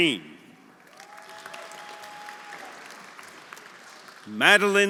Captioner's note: audience applauding; audience cheering